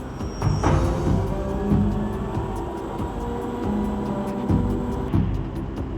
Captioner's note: machinery whirring